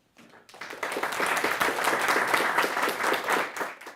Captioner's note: applauding